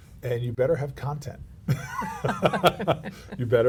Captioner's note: laughs